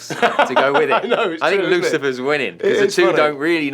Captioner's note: laughs